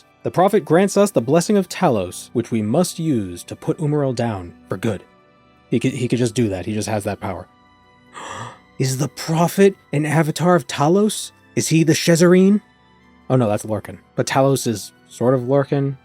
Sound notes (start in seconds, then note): 8.1 gasp